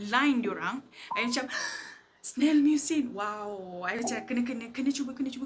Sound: gasp

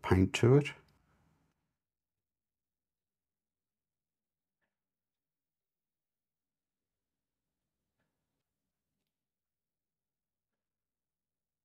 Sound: silence

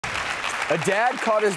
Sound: audience clapping

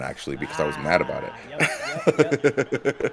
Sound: laugh

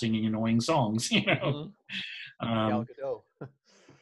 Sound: laughs

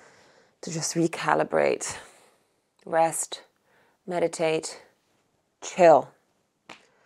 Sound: exhales

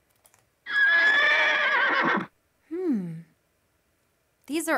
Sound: horse neighs

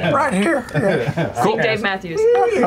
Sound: laughter

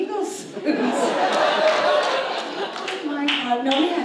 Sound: audience laughs

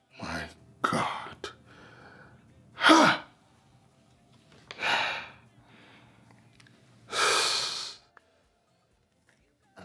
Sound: sighing

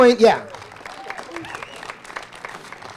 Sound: applause

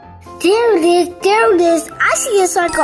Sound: offscreen voice

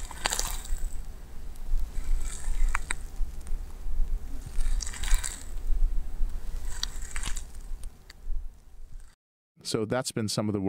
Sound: mechanical crackling and grinding sounds

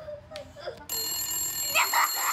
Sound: phone rings loudly; Chase man laughs

